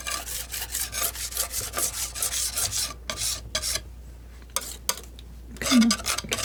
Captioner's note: scratching